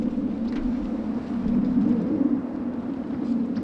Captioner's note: wind blowing